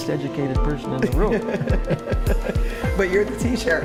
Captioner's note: laughter